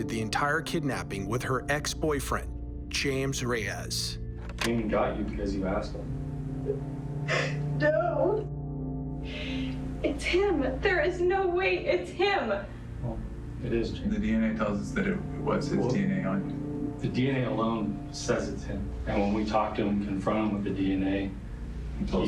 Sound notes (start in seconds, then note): 6.6 crying